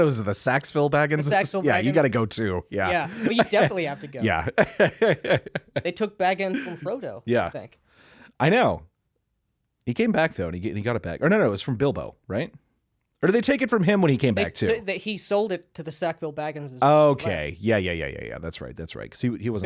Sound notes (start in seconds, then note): 5.5 laughing